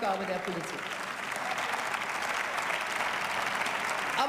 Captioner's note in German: Beifall